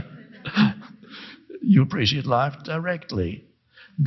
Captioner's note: laughs